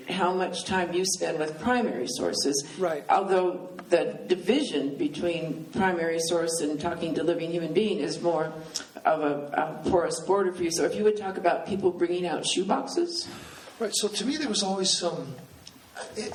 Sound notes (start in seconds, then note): none